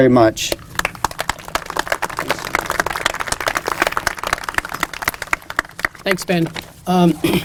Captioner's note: applause